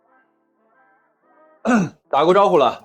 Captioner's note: cough